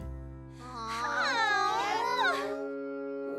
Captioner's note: all groaning